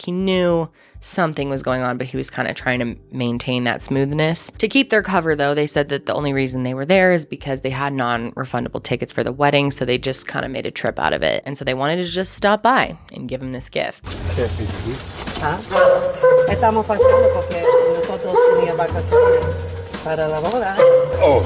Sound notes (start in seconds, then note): 14.3 speaking foreign language